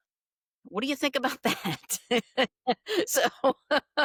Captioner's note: laughs